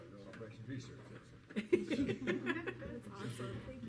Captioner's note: board members laughing